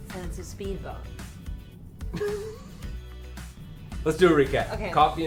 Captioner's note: laughs